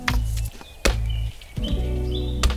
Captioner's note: chop